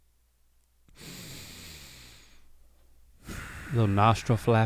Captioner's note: deeply inhales